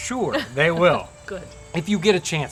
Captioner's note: laughs softly